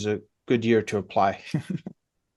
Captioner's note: laughs